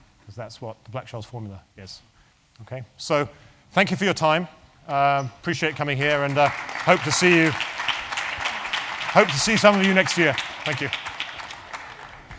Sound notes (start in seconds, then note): 5.7 applause